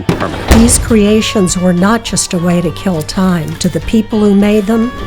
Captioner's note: podcast Voice